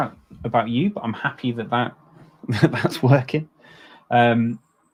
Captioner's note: chuckles